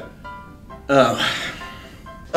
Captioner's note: sighs